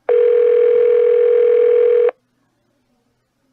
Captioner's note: phone still ringing